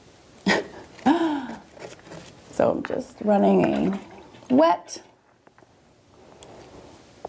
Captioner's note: laughs